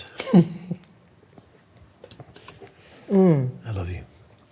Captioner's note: laughing